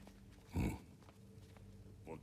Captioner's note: grunt